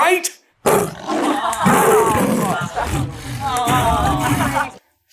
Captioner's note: lion roars